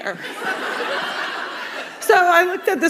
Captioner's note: laughter